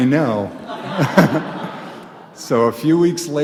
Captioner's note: audience laughs